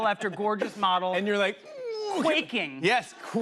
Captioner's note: grunts